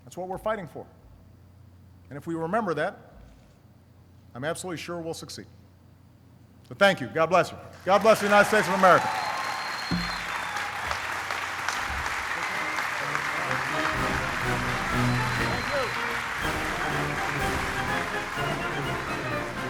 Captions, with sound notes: That's what we're fighting for. And if we remember that, I'm absolutely sure we'll succeed. Thank you, God bless you. God bless the United States of America. (applauding) (classical music)